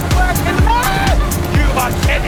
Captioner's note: screams